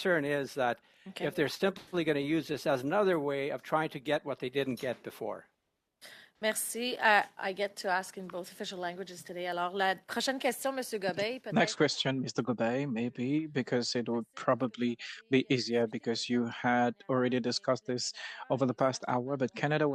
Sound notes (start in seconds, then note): 17.4 speaking French